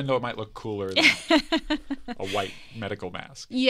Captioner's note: laughs